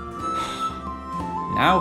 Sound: sighs

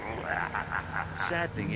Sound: Venom laughs more

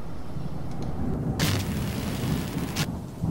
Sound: distorted Scene Change

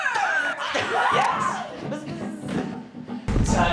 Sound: students cheering

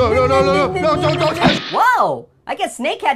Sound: poof

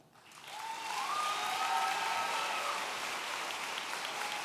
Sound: audience cheering

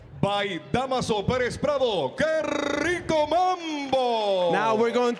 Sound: MC speaking in Spanish

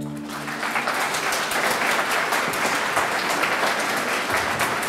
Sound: audience clapping

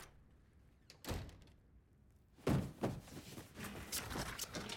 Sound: door closing

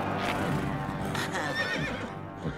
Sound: neighing

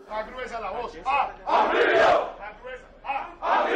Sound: Todos gritan

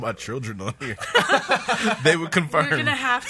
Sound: laughs

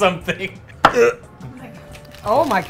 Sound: grunts

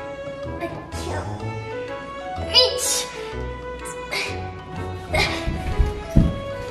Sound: grunts

